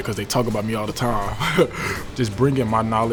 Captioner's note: laughs